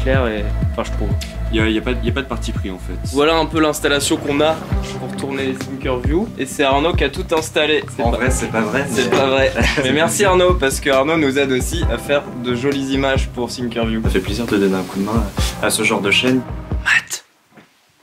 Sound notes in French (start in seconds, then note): 17.0 chuchoté